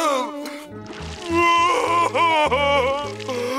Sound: crying

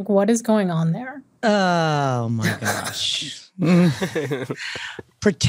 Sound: laughter

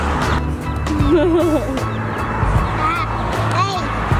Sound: laughing

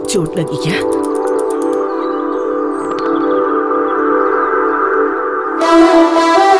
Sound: birds chirping

